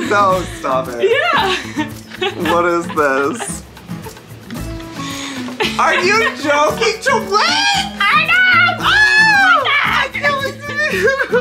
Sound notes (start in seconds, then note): 8.4 Joey screams; 8.9 Colleen screams